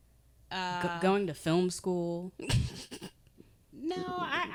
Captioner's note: snickering